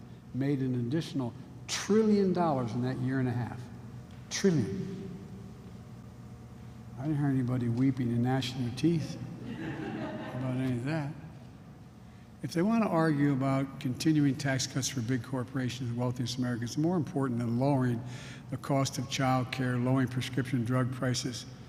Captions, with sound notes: made an additional trillion dollars in that year and a half. Trillion. I didn't hear anybody weeping and gnashing their teeth -- (laughter) -- about any of that. If they want to argue about continuing tax cuts for big corporations and the wealthiest Americans is more important than lowering the cost of childcare, lowering prescription drug prices --